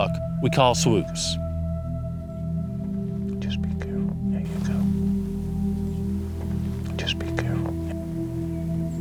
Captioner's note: whispering